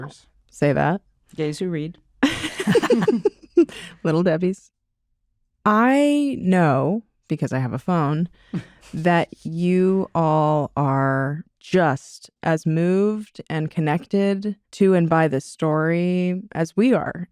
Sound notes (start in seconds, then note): 2.2 laughter